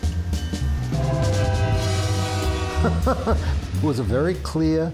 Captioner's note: train horn blaring